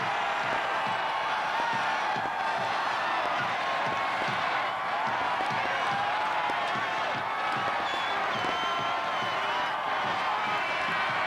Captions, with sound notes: (fans chanting) - Rangers suck. Rangers suck.